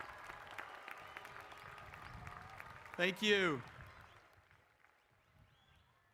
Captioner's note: applause